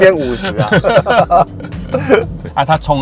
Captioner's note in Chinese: 哈哈哈哈